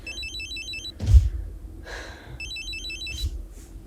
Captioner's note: phone rings